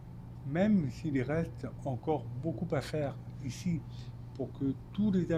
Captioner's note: speaking French